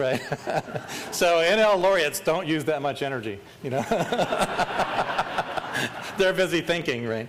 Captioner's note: laughter; laughter